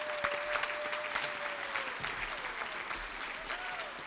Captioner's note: applause